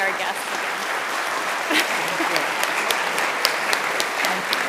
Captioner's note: group applauding